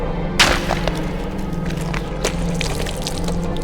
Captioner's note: squishy punch